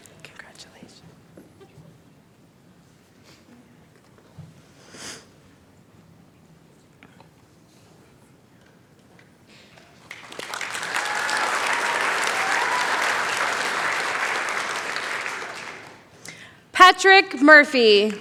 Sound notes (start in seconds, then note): 9.7 applause; 17.9 cheering, applause